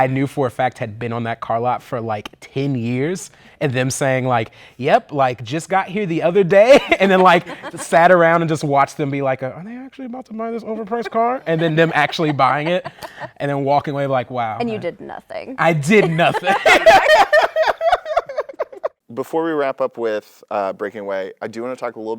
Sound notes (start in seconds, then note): 17.4 laughter